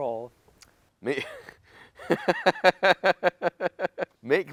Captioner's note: laughter